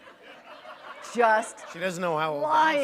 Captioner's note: laughter